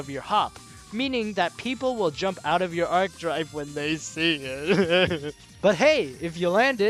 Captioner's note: sob